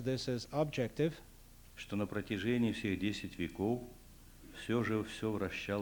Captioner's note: non-english speech